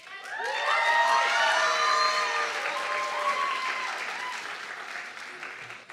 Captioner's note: audience clapping and cheering